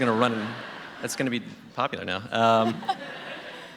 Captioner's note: laughter